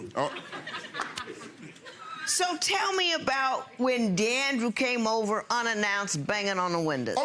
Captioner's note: audience laughing